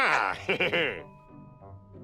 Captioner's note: chuckles